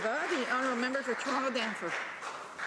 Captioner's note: applause